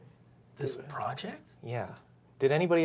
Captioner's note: nasally